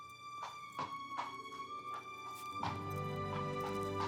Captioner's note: hooves clopping